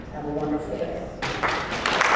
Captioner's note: applause